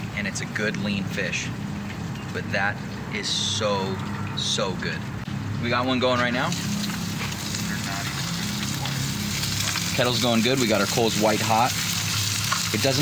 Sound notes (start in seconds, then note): 8.4 oil sizzling